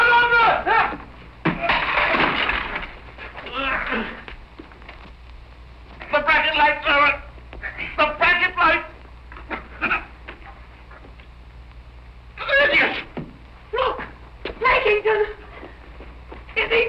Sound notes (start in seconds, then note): 0.2 yelling; 1.4 crashing; 3.4 grunting